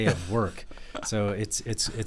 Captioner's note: laughing